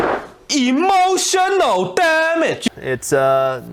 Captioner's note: voiceover